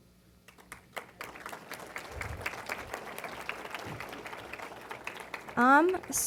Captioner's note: applause